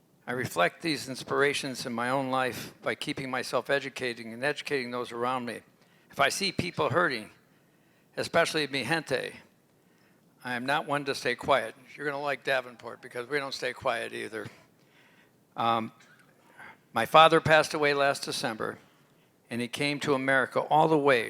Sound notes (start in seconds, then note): 8.7 non-english language